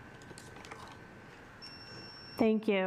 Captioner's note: alarm beeping